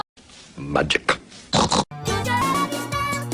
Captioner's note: snort